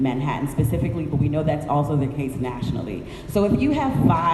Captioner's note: none